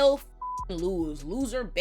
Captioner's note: beep